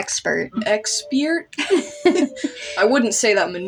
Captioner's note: both Laugh